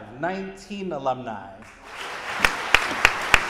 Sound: audience applauding

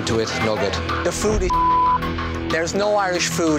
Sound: beep

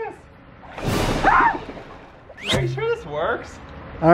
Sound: water bubbling; screaming

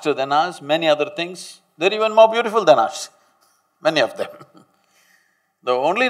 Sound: laughs

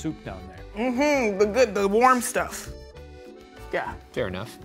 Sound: hums in agreement

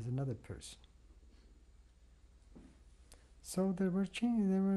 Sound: pauses for 3 seconds

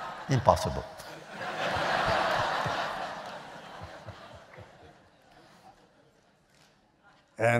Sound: laughter

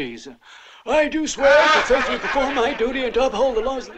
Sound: laughter

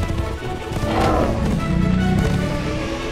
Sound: exciting music; roars

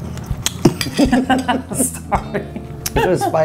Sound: laughing

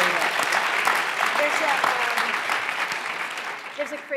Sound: applause

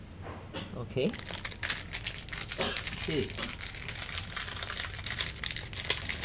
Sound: coughing

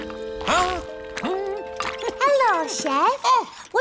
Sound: hums

